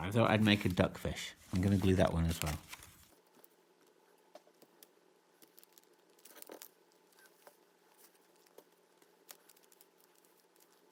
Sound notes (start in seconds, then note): 6.1 paper rustling